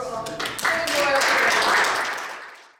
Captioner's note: audience applauding